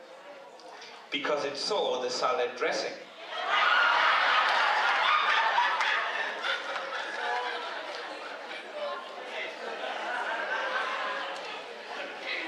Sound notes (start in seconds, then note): 3.4 laughter